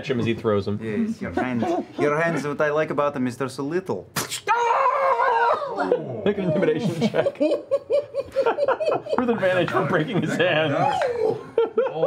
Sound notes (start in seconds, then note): 4.4 yelps